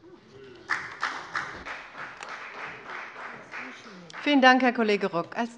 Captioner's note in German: Beifall bei der FDP